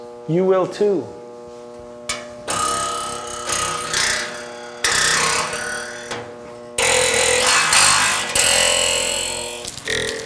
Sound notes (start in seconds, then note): 2.4 spring noise